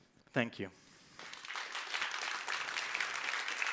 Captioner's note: applause